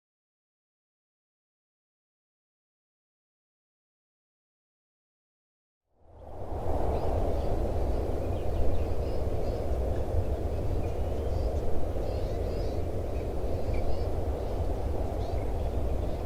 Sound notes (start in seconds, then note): 6.0 rustling breeze; 7.7 birds chirp in background; 13.1 chirping continues